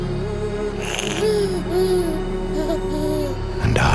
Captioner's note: baby giggling